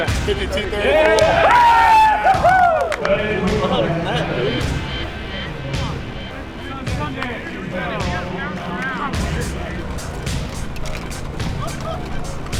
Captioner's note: cheering